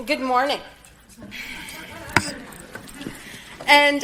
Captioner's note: audience laughing